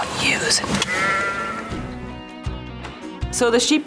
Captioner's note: sheep bleating